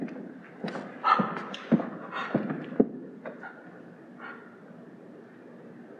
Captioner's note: heavy breathing